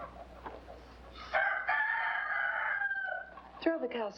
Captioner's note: rooster crows